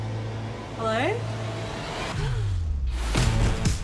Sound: tense music playing; gasps; upbeat music continues

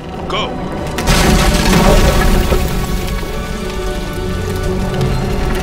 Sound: roof collapsing

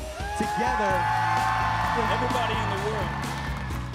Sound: audience cheering

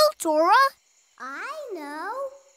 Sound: off-screen voice

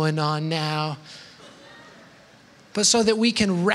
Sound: laughter

